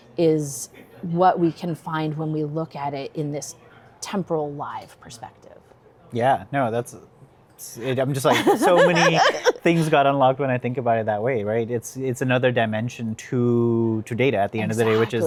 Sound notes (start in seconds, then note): 7.8 chuckles